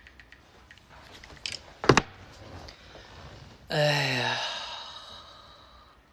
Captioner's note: click; siGHhhhh